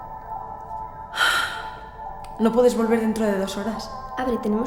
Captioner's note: sighs